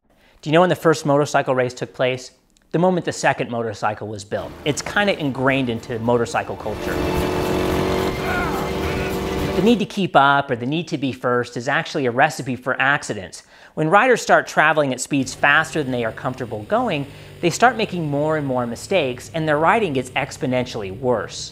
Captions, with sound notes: Do you know when the first motorcycle race took place? The moment the second motorcycle was built. It's kind of ingrained into motorcycle culture. [grunting] The need to keep up or the need to be first is actually a recipe for accidents. When riders start traveling at speeds faster than they are comfortable going, they start making more and more mistakes, and their riding gets exponentially worse.